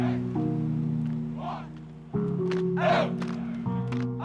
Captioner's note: players chants